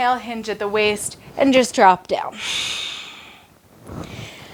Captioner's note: inhales